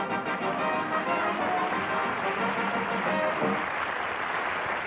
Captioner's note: applause